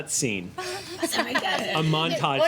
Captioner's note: laughing